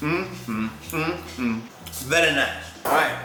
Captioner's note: humming